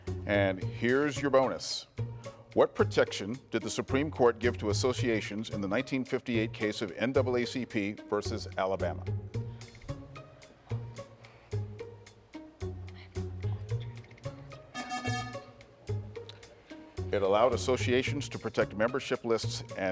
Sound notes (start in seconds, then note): 9.4 pensive music; 14.7 buzzer buzzes